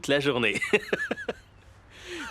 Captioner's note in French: rires